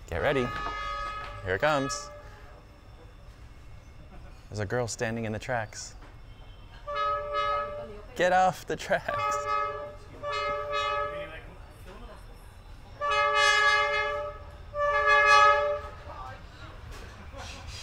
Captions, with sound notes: Get ready! Here it comes! There's a girl standing in the tracks. **loud train honking** Get off the tracks! **loud honking**